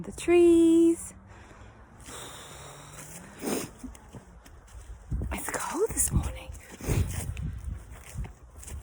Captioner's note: deep sigh